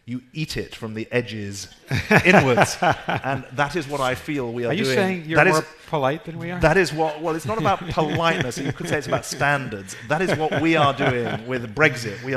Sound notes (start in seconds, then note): 1.8 laughing